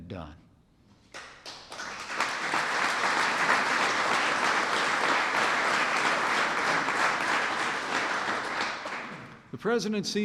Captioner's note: applause